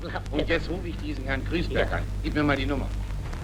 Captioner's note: speaking in German